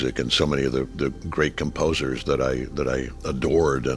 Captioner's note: none